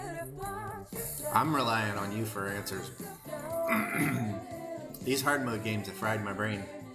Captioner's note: clears throat and cough